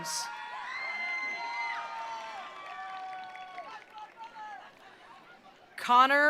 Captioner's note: attendees cheering; attendees applauding